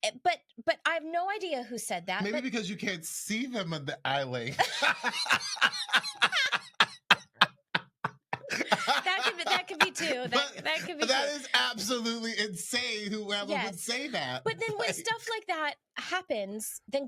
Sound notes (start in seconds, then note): 4.4 both laughing